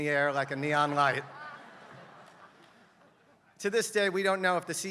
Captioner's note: laugh